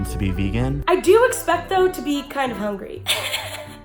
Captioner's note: laughs